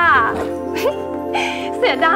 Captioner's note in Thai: เสียงหัวเราะ